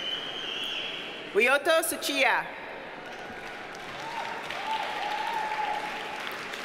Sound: audience cheers and applauds

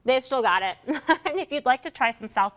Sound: laughter

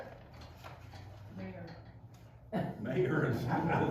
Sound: laughter

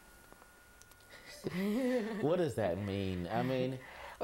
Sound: both laugh

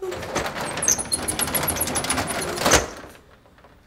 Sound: shutter closing sound

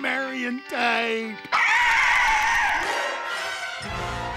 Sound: shrieking

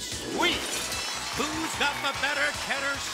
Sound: applause

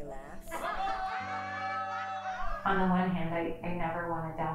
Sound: laughter

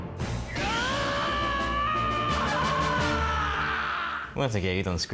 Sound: tense rhythmic music; Phoenix screaming

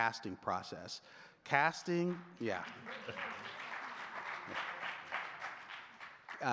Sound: audience clapping

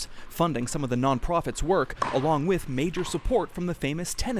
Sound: Nats puncturing balls

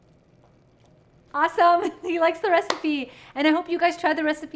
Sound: hand clapping

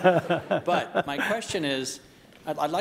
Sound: laugh

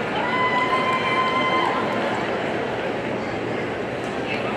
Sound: audience cheering

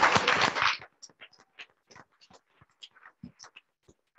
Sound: audience clapping

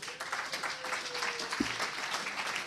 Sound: applause

